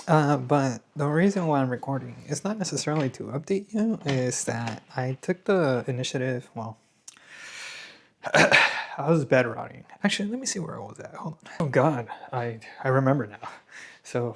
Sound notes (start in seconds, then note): 8.2 sighs and gasps